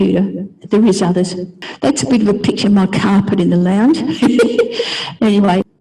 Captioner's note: giggle